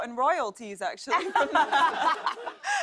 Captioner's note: laughter